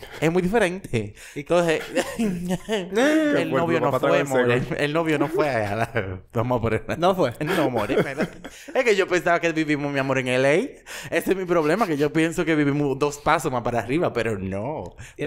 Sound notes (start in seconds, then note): 1.6 laughs; 8.3 laughs